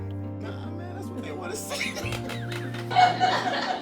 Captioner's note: laughs; audience laughs